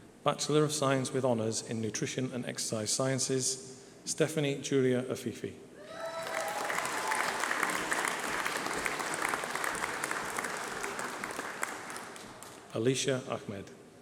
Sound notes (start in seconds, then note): 3.4 applause